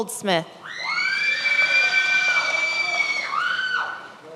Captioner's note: many applauding